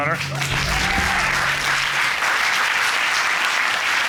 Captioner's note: cheers and applause